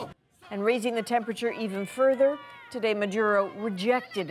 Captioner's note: speaking spanish